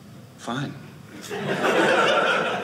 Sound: audience laughing

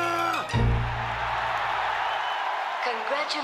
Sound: audience cheers

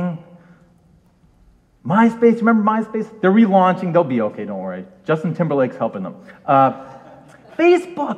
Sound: audience laughs

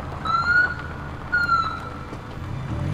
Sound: police sirens

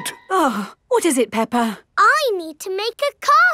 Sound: gasps; sighs

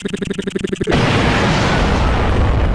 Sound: boom

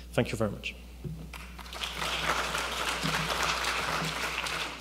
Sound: applause

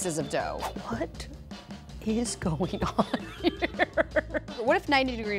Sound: laughs

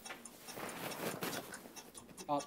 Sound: ticking ticking

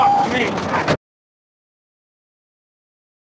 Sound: loud bang, recording ends

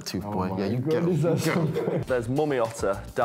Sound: laughs

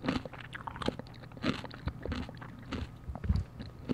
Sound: crunch crunch crunch

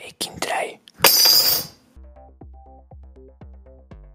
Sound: tool clangs

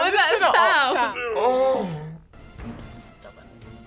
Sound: gasp in slo-mo

